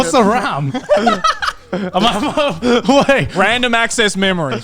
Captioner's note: laughing loudly